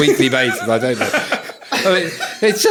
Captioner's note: all laughing